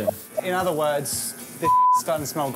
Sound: beep

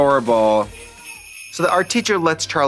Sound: sleigh bells jingling

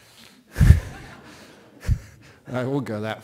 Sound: laughter

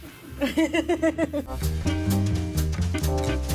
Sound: laughing

